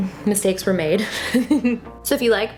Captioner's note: laughing